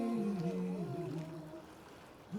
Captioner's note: river flowing